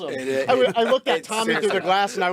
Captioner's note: laughter and chattering